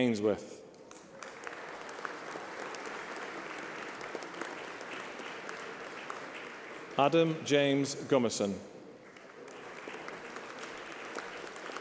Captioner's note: applause